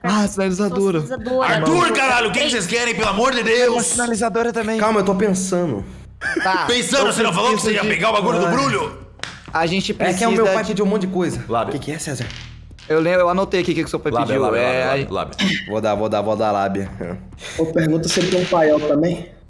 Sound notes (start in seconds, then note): 6.2 laughs